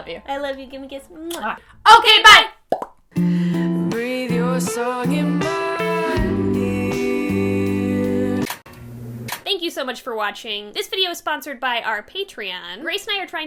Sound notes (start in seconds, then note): 2.6 mouth popping; 8.8 film reel spinning